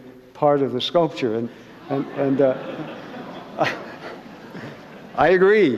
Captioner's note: laughter